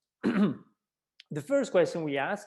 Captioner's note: clearing throat